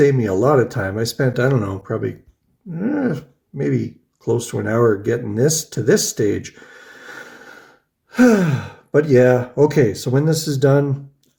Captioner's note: sighs